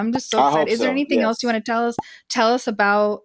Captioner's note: pop sound